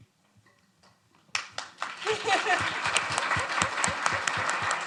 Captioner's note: audience applauding